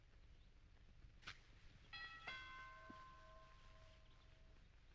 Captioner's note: doorbell ringing